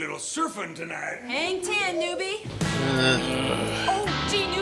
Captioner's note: exasperated sighs